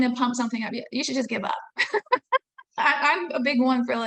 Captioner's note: laughing